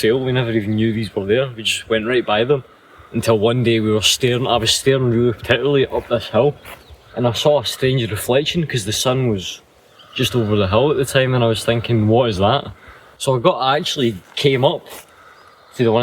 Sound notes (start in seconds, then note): none